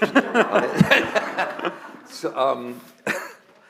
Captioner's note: laughter